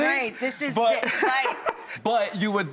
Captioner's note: laughing